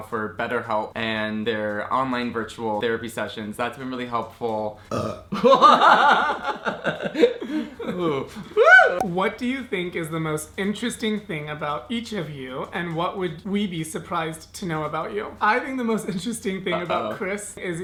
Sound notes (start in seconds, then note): 4.9 burps; 5.6 laughs